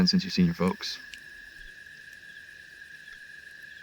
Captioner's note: crickets Chirping Continues